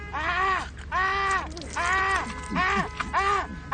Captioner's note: continious car honks in the background